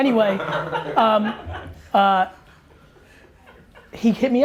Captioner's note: laughter